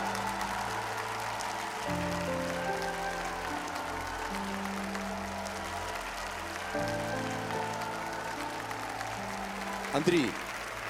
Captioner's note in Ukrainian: оплески